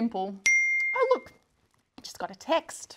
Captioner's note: phone chimes